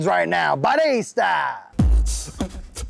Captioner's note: italian; hip hop music